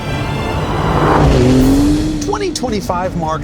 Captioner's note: engine revs